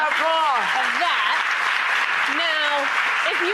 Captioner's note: audience applauds